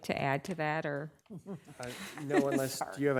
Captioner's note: laughing